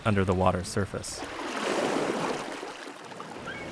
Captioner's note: splashing water and waves